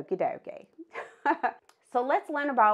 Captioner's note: laughing